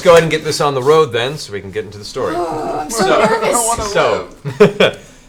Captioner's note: laughing